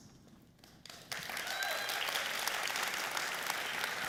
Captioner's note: applause